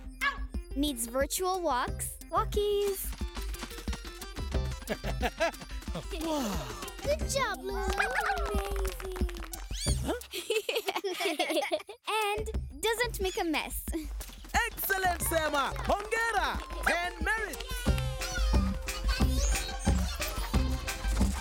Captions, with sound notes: -[barks] -Needs virtual walks. Walkies. [Mr. Babbleon laughing] -Woow! -Good job. Amazing. -Huh? -[laughing] And doesn’t make a mess! -Excellent Sema! -Congratulations! [in Swahili] Congratulations. Ten Merits! Yeah! -Hello! -[Bongolalas chattering]